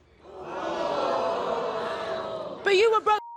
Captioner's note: crowd jeering